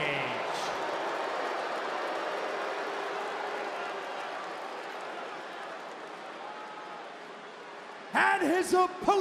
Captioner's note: crowd boos